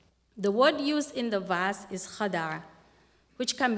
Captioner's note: non-english speech